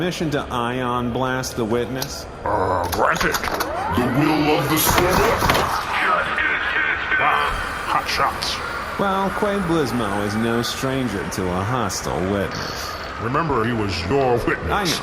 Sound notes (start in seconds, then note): 3.9 sound of ion blaster charging